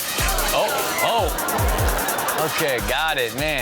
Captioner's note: audience laughs